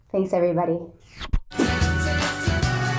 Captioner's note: zipping; upbeat music